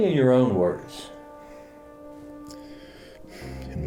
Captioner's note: deep breath